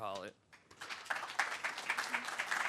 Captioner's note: audience applause